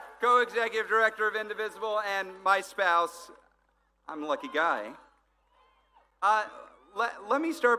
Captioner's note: applause